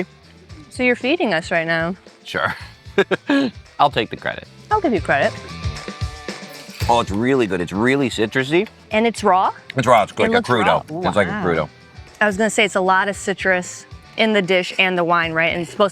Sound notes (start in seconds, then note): 2.4 laughs; 6.5 upbeat music